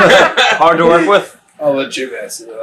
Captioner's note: laughing